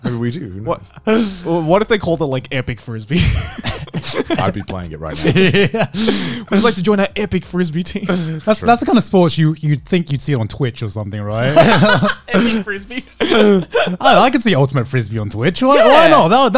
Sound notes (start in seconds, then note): 11.4 everyone laughs